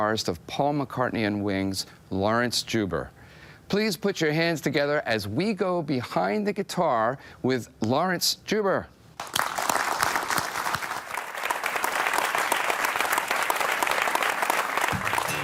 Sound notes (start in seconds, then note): 9.2 applause